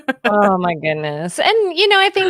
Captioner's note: chuckles